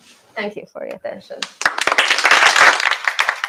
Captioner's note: applause